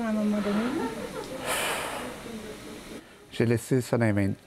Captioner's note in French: Il soupire